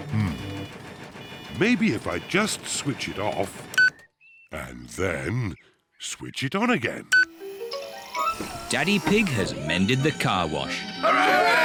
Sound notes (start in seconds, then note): 4.1 beeps; 7.1 beeps